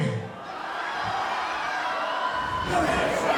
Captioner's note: crowd, cheering